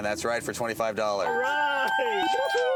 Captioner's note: bells ringing